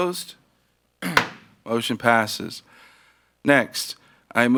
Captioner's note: gavel bangs